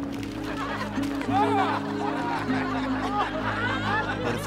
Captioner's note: laughing